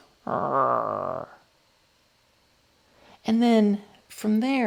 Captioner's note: zombie noises